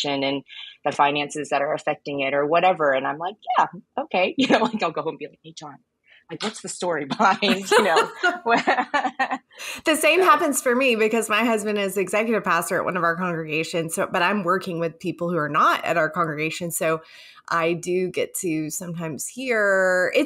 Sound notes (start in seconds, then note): 7.1 laugh